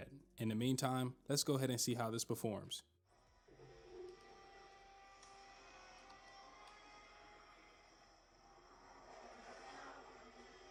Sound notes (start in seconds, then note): 3.0 silence